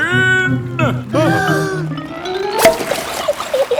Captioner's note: breathing in